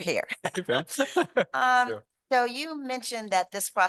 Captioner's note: laughter